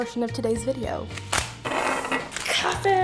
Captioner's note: bag plopping; pot dragging